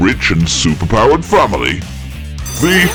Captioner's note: bell ringing